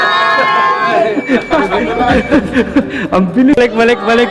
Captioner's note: laughs